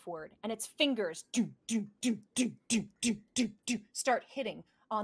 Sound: imitates thumping

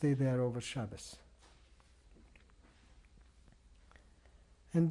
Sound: pauses for 3 seconds

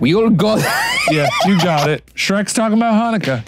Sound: laughs

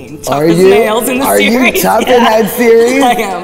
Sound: laughing

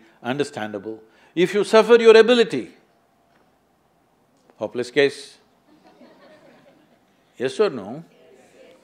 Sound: laughter

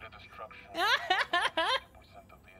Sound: laughing

